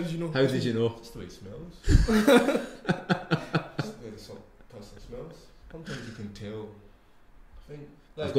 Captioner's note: group laughs